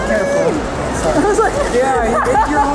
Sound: laughs

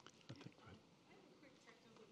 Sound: speaking faintly

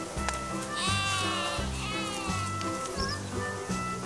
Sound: sheep bleating

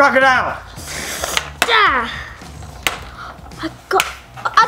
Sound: cracking eggs

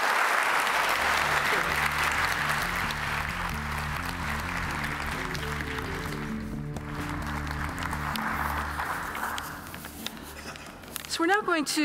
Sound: applause

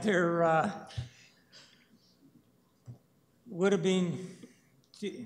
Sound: chuckles

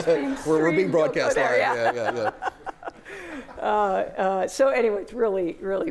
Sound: laughter

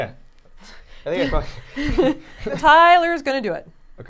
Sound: chuckling

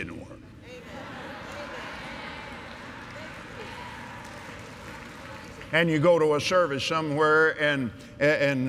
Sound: agreement & Applause

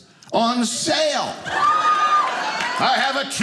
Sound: audience laughing

